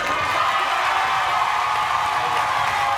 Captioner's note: cheering